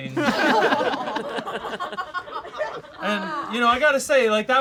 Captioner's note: all laugh